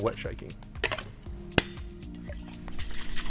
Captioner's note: thuds; liquid shaking